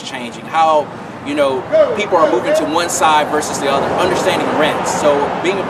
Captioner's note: car noise